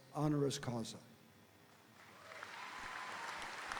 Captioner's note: speaking foreign language; audience applauding; audience cheering